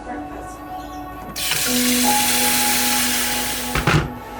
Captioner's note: water splashing; soft ambient music